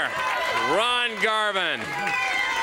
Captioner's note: crowd cheering